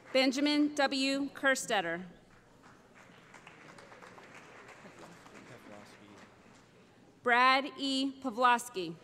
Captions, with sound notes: Benjamin W. Kerstetter [ Applause ] Brad E. Pavlosky